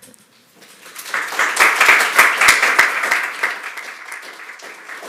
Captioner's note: applause